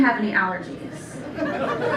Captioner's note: laughter